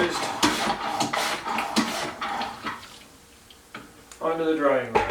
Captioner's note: sploosh, sploosh, sploosh, sploosh